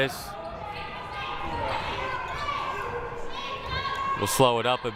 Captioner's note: crowd cheering